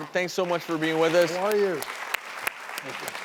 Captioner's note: applause